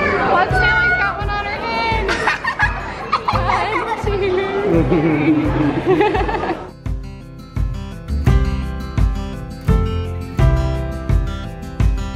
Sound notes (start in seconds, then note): 2.0 all laughing; 6.9 upbeat urban folk music